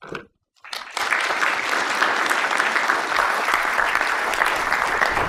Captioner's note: applause